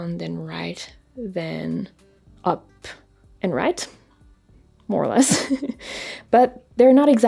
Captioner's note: laughs